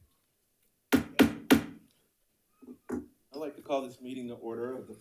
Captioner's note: gavel tapping